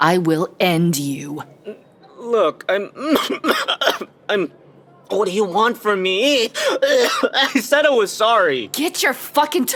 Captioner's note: Albert coughs